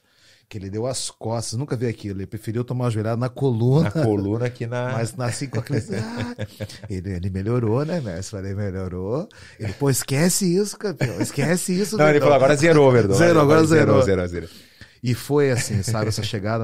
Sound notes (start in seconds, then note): 9.4 laughs